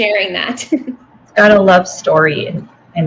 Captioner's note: chuckles